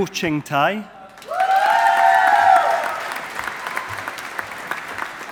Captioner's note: audience applauding